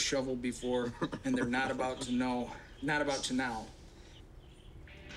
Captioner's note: laughs